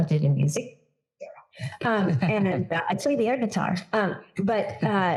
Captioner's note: laugh